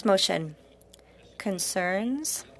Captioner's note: speaking French